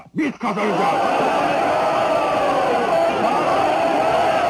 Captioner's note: crowd shouting